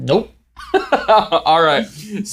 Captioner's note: laughs